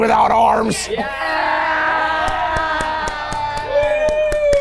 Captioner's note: people cheering